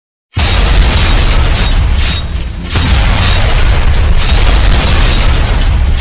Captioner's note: explosions booming; machine clinking